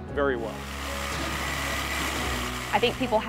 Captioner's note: whirring